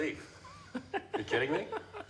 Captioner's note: Dobbs laughs